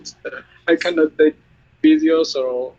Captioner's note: laughs